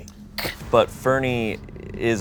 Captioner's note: scoffs